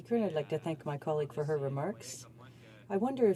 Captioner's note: speaking in French